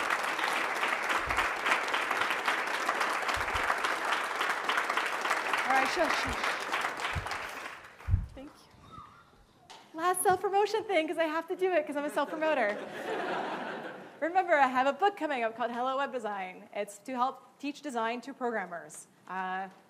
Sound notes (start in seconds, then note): 13.4 laughing